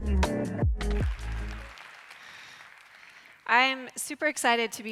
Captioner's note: audience applauds